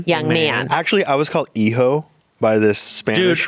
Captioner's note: speaking foreign language